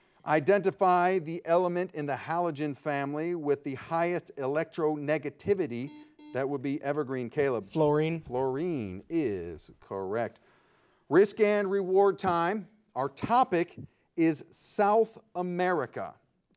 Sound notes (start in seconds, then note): 5.7 buzzer beeping